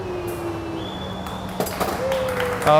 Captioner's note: applause